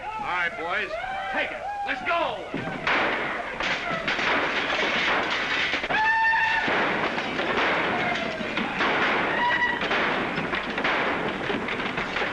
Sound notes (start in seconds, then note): 3.5 sounds of smashing & destruction; 6.4 guns firing & smashing objects; 11.3 sounds of smashing & destruction